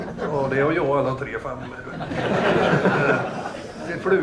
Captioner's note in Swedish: Skratt